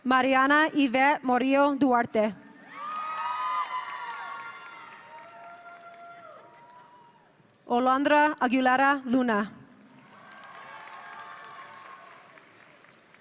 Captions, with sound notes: Mariana Ivette Murillo Duarte. (audience cheering) Alondra Aguilera Luna. (audience cheering)